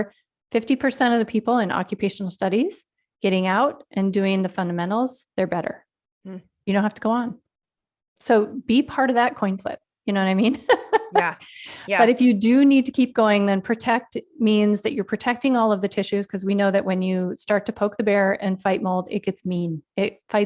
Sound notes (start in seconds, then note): 10.6 laughs